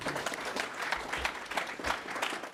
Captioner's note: applause